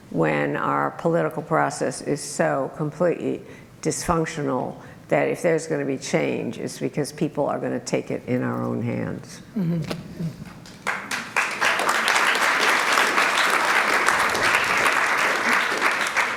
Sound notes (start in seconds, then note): 10.6 applause